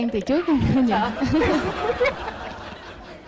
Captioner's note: laughs